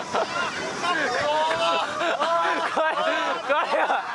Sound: riders wailing; person filming laughing; speaking in foreign language

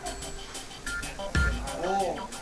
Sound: shop chatter

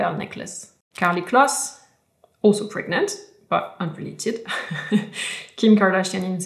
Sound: laughs

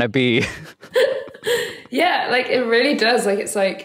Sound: chuckling

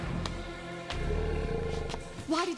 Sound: growling

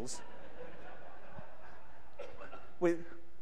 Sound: audience laughs

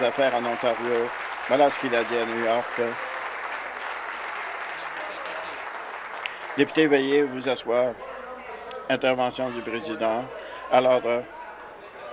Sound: applause

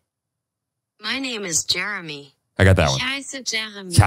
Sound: automated Voice; automated voice speaking German

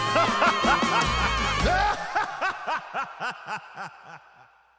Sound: maniacal laughing

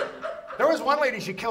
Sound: audience laughs

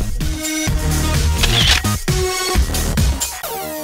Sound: camera shutter

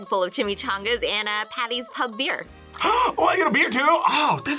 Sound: gasps

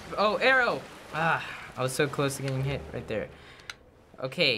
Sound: sighs

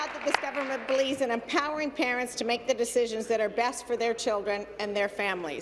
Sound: applause

